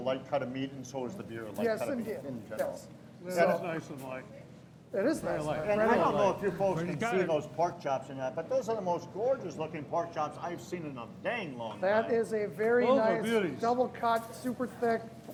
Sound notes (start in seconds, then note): none